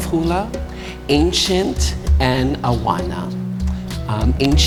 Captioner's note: speaking in foreign language